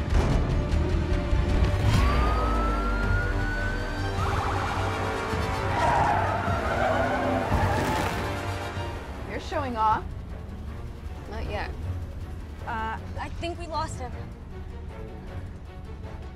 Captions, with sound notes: (SIREN BLARING) (TIRES SCREECHING) You're showing off. Not yet. Uh, I think we lost him. (TENSE MUSIC CONTINUES)